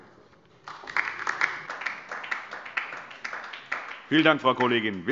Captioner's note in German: Beifall DIE LINKE